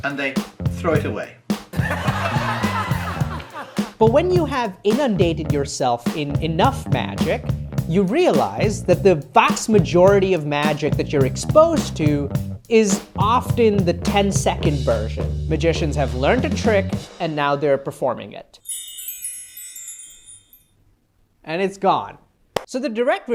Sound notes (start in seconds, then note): 1.7 laughter